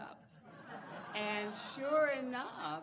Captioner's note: audience laughing